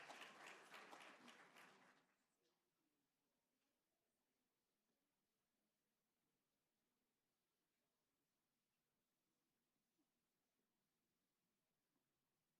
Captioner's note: applause